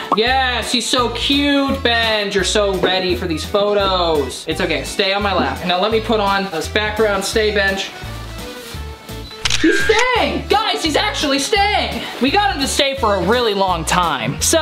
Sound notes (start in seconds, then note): 9.4 camera clicking